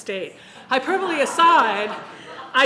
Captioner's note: audience laughing